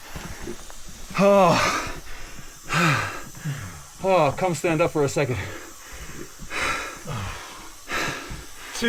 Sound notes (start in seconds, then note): 1.4 exhales; 6.5 breathes